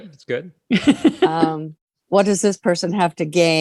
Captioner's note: laughter